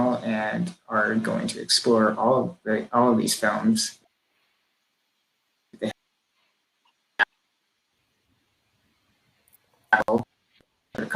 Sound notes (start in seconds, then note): 6.9 mic cutting out